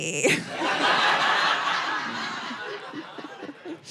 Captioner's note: audience laughing